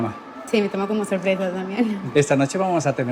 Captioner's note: laughing